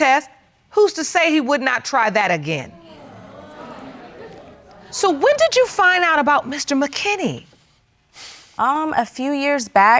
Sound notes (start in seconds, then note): 2.7 audience exclaiming